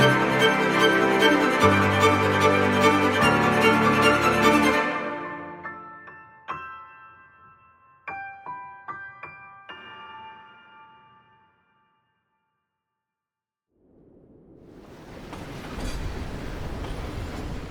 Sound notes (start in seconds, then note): 13.8 cold wind blowing; 14.8 river water rushing; 15.1 train tracks screeching